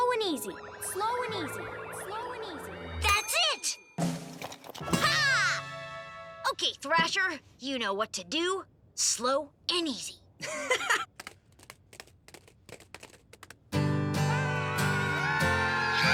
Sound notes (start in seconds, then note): 0.2 Lizbeth echoing; 10.4 laughing